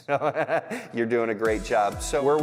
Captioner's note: laughs